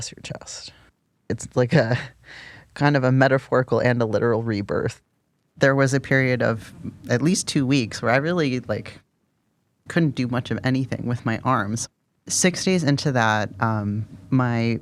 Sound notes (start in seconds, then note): none